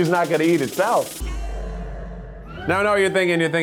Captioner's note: metallic clash